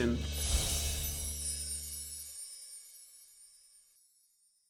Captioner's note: soft chiming sound